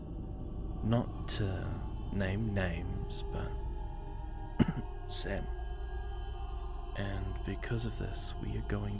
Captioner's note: sneeze